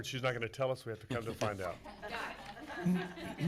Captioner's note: laughing